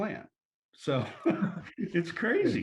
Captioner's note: laughter